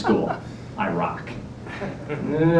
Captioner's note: laughter